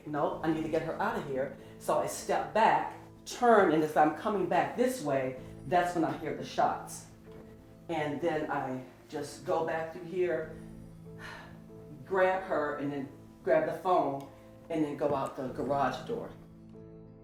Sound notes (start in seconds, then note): 11.1 sighs; 16.9 sorrowful, gentle music